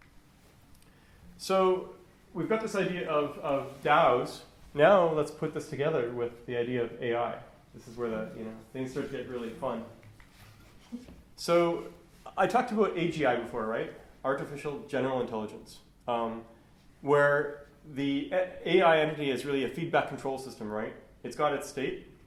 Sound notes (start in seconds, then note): none